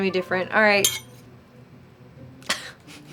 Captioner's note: metals clinking; chuckles